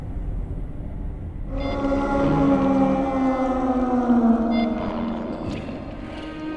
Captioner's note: slow, somber strings; anguished moaning and beeping of EKG; slow, somber strings